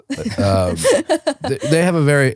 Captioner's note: laughing